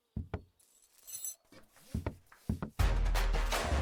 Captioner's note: metal clank